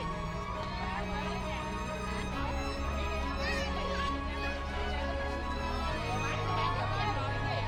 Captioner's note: people chattering